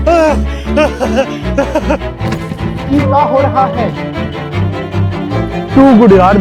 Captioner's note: laughter